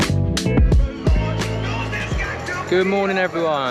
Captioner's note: crowd cheers